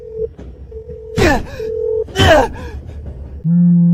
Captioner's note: nervous noises